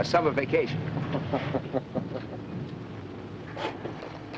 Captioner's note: laughing